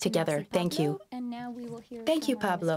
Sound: speaking French

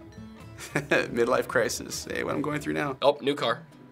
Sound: laughing

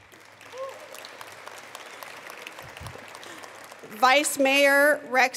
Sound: attendees applauding

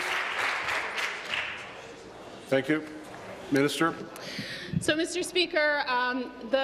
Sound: applause

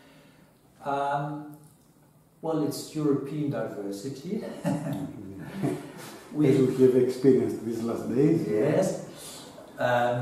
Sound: laugter... hahaha

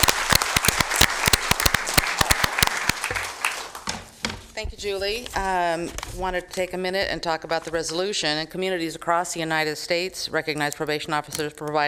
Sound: applause

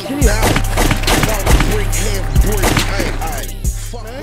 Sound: gun firing

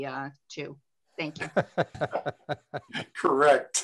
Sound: laughter

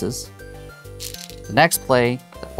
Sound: stones rattling

